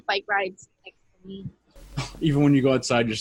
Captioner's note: laughs